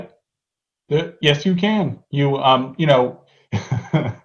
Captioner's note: laugh